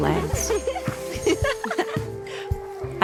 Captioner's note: laughter